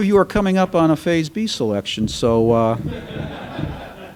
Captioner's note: laughter